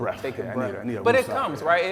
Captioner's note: speaking quietly